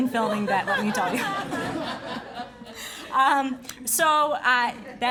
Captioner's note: laughing